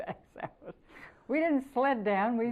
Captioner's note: laughter